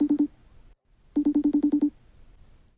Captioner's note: ring beeps